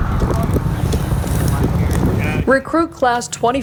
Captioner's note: firefighters chattering